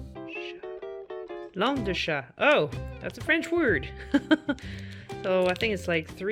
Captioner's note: laugh